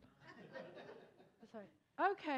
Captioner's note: attendees laughing